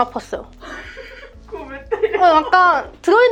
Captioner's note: laughter